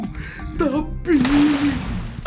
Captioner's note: water splashing